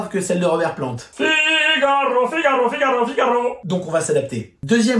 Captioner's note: imitates a baritone voice